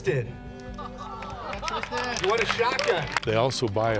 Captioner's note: clapping